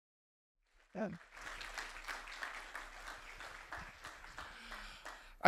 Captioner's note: audience members clapping